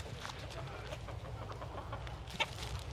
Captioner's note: chickens clucking and birds chirping